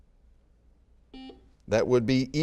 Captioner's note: buzzer beeping